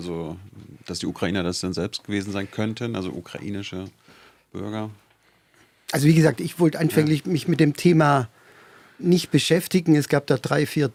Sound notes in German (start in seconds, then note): none